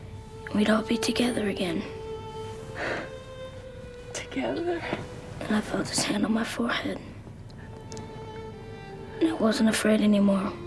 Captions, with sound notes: and we'd all be together again. - (sighs) Together? Then I felt his hand on my forehead. And I wasn't afraid anymore.